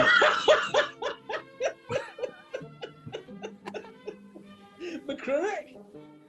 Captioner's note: laughter